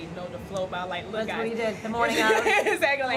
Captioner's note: laughs